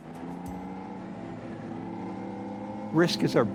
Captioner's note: engine rumbles